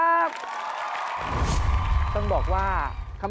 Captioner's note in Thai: เสียงเอฟเฟกต์ปรบมือ